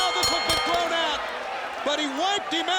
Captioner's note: bell rings